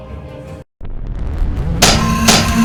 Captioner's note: tentacle beast rumbling; scorpion beast clanking